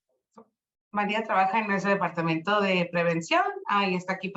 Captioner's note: speaking Spanish